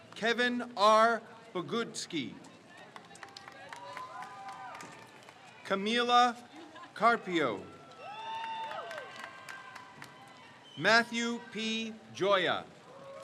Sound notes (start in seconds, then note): 2.9 crowd cheers; 8.5 crowd cheers